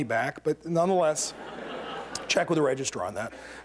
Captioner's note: laughter